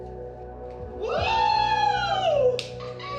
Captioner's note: both exclaim, laughing